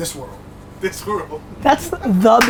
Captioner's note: laughs